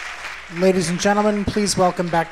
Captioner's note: cheers and applause